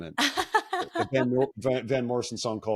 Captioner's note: laughing